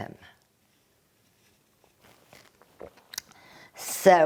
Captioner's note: drinking